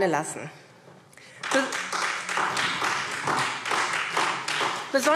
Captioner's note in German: Beifall SPD